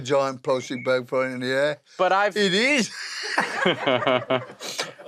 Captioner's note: laughs